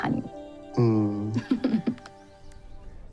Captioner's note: giggling